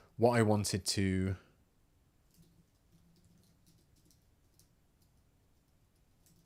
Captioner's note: silence